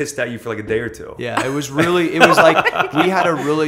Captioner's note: laughter